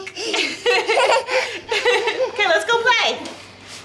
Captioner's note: laughs